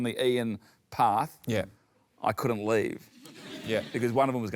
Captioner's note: laughter